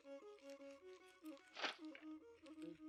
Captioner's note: bumping